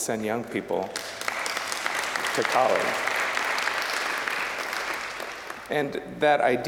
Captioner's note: applause